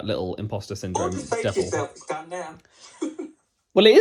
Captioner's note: laughs